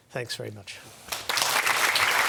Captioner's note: applause